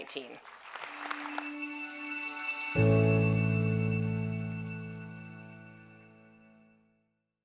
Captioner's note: applause - Music